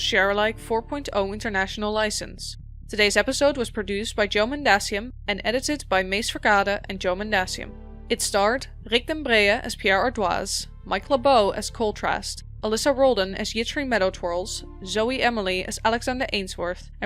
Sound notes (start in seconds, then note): none